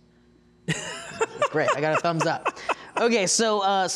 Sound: laughing

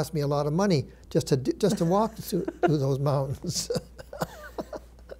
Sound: chuckles

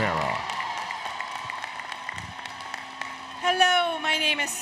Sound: applause, Cheering

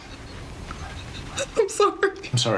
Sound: chuckles; mother sobbing

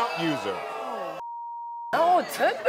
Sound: audience ohs; beep; laughs

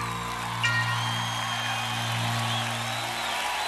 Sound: crowd cheering

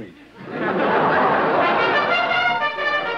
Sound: laughter; trumpet flare

